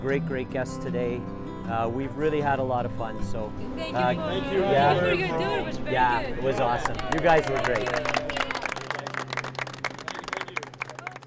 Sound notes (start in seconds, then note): 6.4 group applause